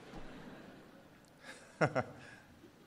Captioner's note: laughter